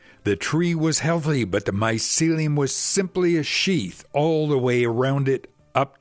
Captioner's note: none